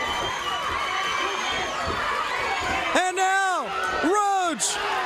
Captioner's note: crowd cheering